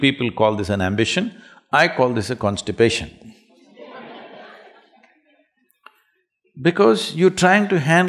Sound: laughter

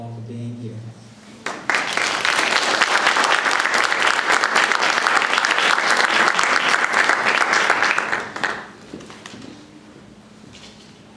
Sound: applause

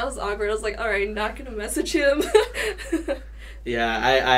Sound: laughs

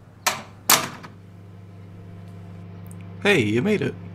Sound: door opening, closing; microphone buzzing

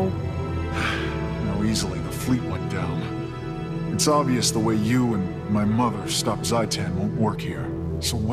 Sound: sigh

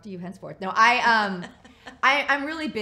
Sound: laughs

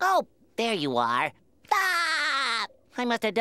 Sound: laughing

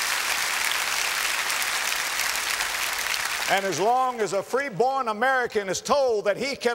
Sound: applause

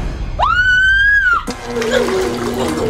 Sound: shrieks

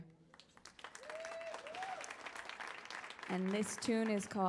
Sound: audience cheers

